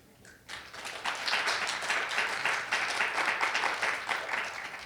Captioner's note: audience applauding